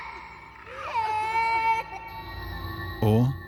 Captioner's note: crying noises